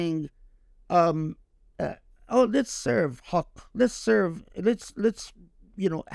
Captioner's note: speaking Arabic